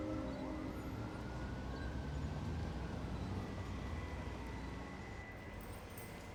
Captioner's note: alarm blaring distantly